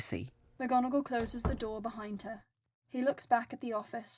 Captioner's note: door closes